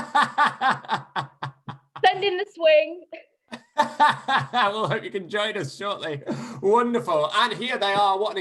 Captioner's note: laughter; laughter